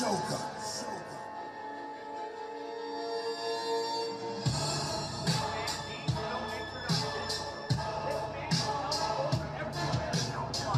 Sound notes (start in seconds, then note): 0.1 dramatic music playing; 6.3 chanting